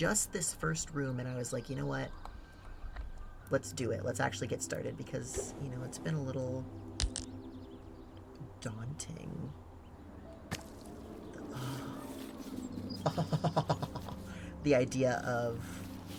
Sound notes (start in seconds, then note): 12.9 laughs